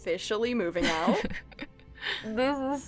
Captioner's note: chuckles